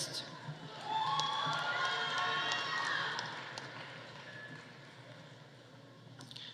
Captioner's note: audience cheering; audience applauding